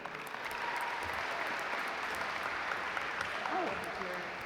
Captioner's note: audience applaud